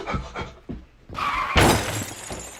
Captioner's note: tyres screeching; crash!